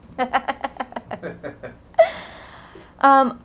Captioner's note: laughing